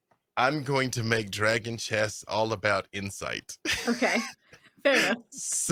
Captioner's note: laughs